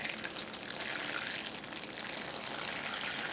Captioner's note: water trickling